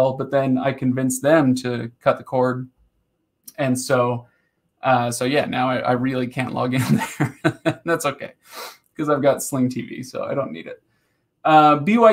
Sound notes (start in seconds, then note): 6.8 laughing